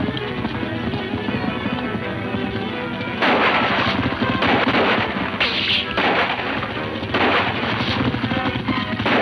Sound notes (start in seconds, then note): 2.6 suspenseful music; 3.2 guns roaring